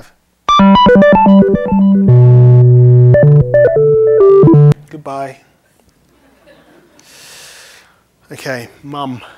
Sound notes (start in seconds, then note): 1.6 telephone rings with computer tones; 6.1 laughter